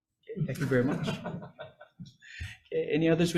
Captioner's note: group laughing